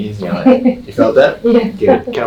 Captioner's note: patient laughing